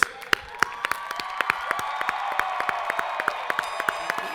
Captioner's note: audience applauding